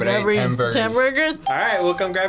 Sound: bell rings

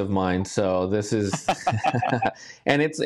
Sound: laughing

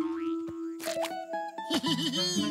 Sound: laughs

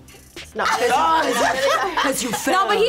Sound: group laughs

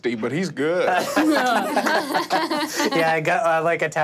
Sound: all laughing

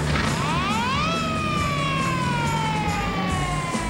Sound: siren wails

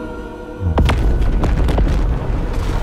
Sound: explosions booming

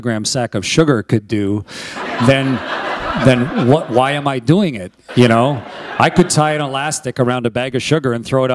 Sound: laughter

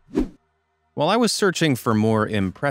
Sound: swoosh

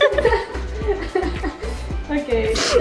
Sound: laughing

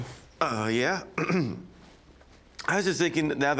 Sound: clears throat

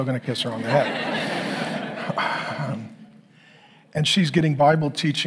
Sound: congregation laughing

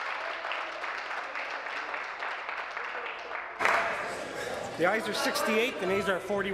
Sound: applause

